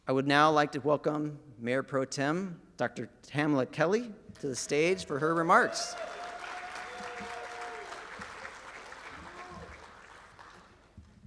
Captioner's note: applause and cheering